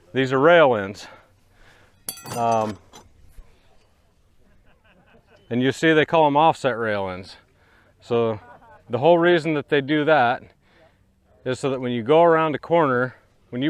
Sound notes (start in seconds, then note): 2.0 rails ding; 4.4 men laughing